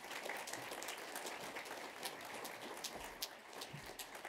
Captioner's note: applause